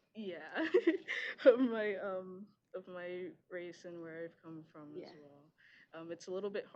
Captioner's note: laughs